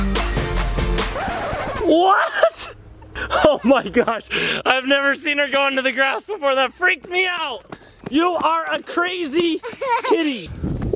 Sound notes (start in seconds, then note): 1.0 disc scratch sound effect